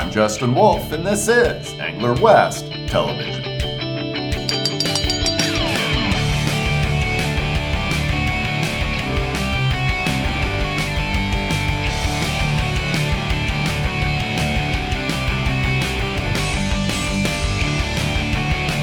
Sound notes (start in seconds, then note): 4.4 bell ringing